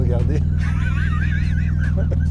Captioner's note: laughter